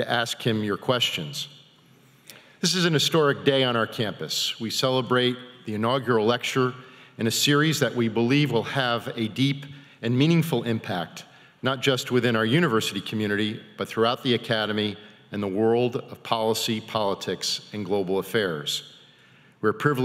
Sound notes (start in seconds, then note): none